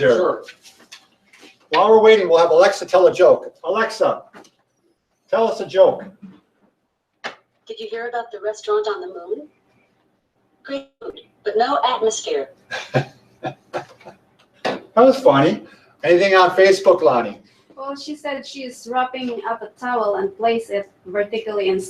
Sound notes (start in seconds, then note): 12.7 laughs